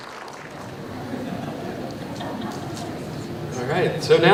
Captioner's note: applause